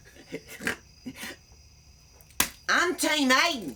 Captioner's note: laughs